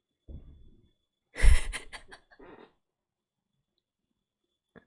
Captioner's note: laughs